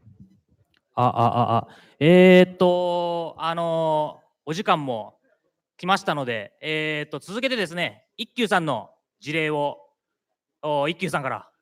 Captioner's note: speaking japanese